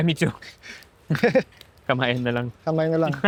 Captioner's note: laughs